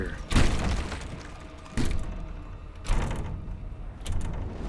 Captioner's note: banging continues